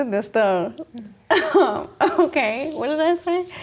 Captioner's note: laughs